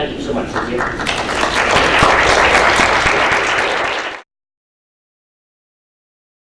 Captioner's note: everyone clapping